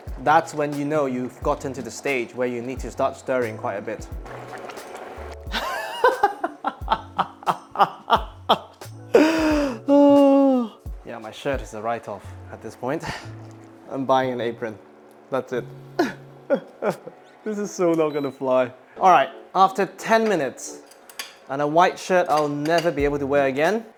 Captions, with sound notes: that's when you know you've gotten to the stage where you need to start stirring quite a bit. [laughing] [gasps while laughing] Yeah, my shirt is a write-off at this point. I'm buying an apron. That's it. [laughs] This is so not going to fly. All right, after ten minutes, and a white shirt I'll never be able to wear again,